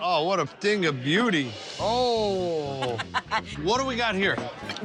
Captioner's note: laughing